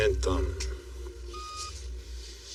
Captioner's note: macachine beeps